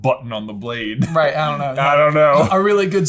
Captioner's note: laughing